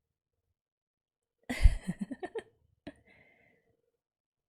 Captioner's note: laughs